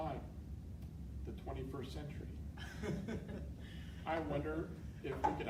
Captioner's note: laughing